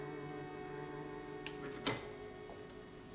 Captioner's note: door opening